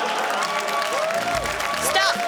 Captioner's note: cheering, applause